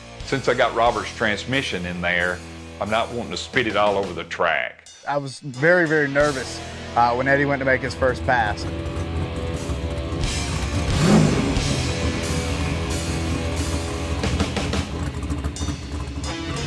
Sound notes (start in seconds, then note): 9.1 car engine roaring; 9.1 rock music